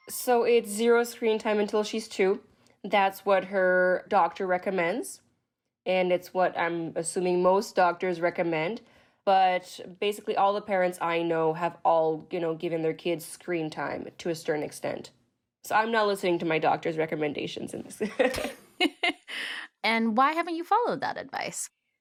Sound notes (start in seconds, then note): 18.1 laughing